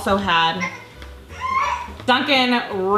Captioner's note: crying